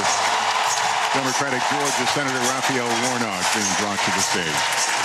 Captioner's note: applause